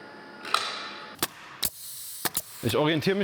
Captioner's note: clack, then hiss